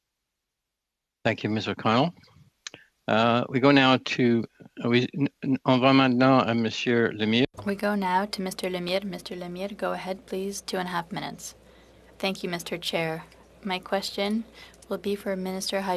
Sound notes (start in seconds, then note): 10.8 speaking French